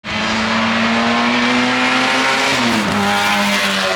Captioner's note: car engine